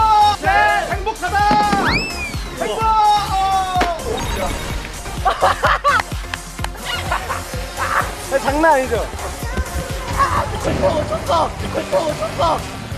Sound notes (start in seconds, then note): 5.1 hahaha